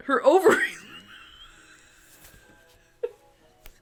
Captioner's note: laughs